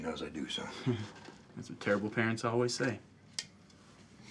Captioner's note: chuckles